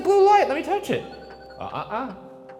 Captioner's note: device chiming